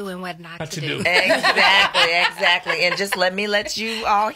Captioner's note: laughs